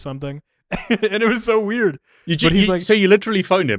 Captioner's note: laughs